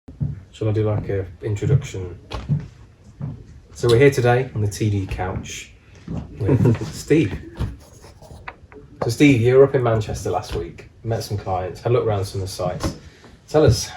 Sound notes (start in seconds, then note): 6.4 laughs